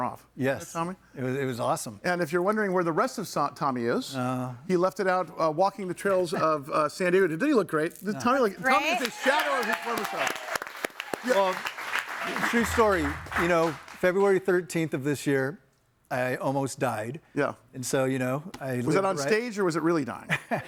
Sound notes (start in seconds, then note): 8.9 audience cheers; 11.5 claps